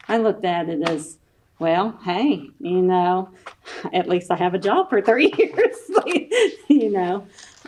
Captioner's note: laughs